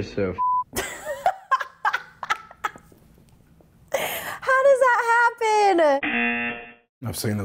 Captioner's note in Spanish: risas; zumbador